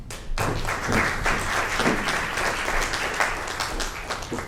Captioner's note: audience applauds